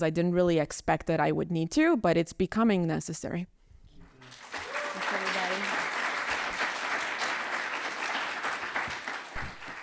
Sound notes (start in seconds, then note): 4.2 audience applauding